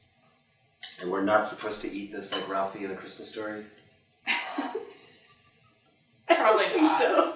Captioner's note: chuckle